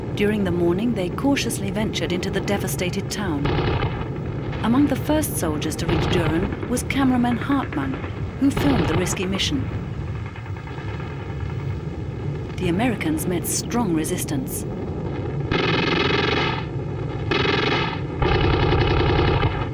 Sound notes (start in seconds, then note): 17.2 guns firing